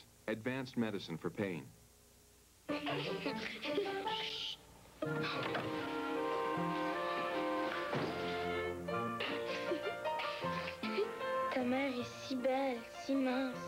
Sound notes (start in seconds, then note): 2.8 girls giggling; 9.2 girls giggle